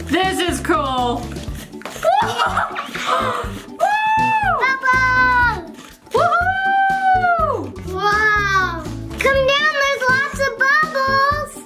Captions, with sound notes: This is cool. (mom laughs) - Bubble! Wow! Come down. There's lots of bubbles.